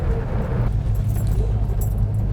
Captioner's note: engine